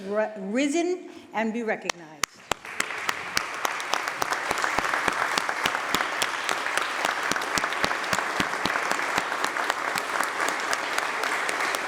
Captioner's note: applause